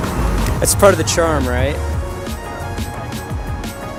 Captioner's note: laughs; upbeat music